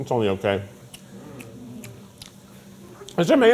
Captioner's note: crew groaning